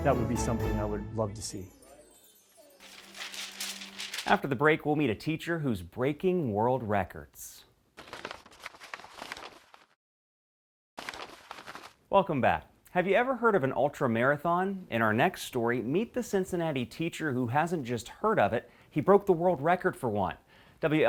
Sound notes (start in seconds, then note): 7.9 paper rustling